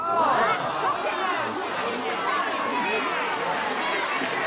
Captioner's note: crowding yelling and clapping